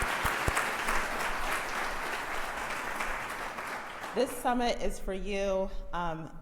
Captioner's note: crowd applauds